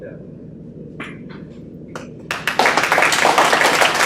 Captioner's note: group applauds